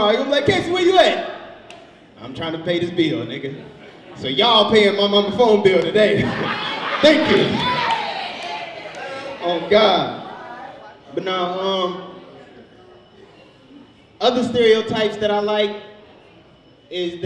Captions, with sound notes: You'll be like, "Casey, where you at?" I'm trying to pay this bill, nigga. So y'all are paying my mama phone bill today. Thank you. (audience laughs) Oh, God, but no, (overlapping chattering) other stereotypes that I like is